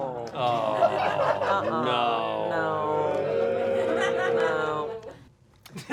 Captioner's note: audience booing